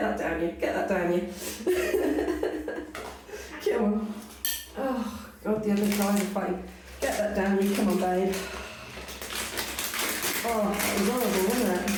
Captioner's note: laughing; laughing